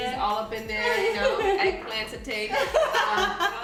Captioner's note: laughter